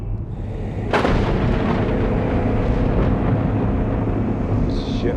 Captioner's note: pensive music; thunder rumbling